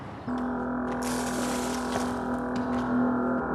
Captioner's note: device hums